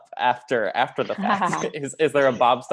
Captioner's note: laughing